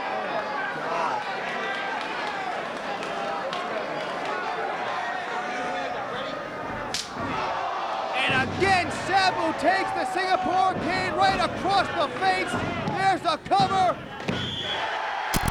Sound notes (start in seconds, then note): 7.3 spectators exclaiming; 15.3 spectators cheering